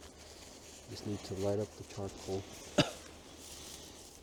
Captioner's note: coughs